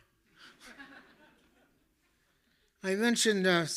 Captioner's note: audience laughing